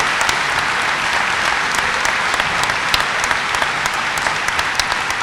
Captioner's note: applause